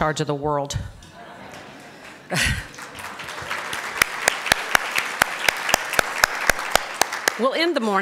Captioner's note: appaluse